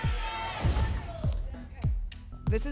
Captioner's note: whoosh; thump